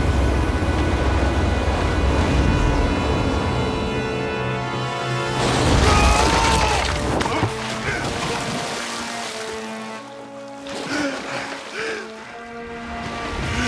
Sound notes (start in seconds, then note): 5.8 screaming; 7.8 grunting; 10.8 gasping